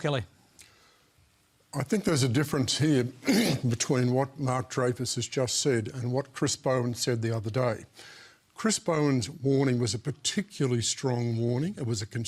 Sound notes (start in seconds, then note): 3.2 clears throat